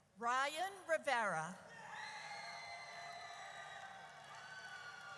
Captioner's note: audience cheers